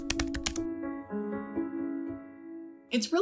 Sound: typing sound effects; soft music playing

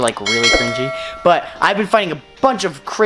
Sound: bell rings

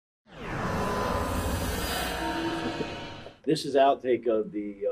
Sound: echo rings

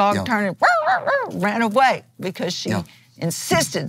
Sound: dog sounds

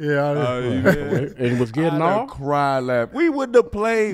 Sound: laughs

